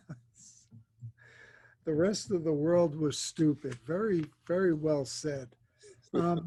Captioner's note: laughs